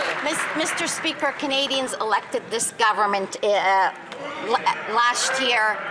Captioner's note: some Applause